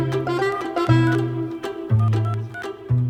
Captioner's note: phone keys beep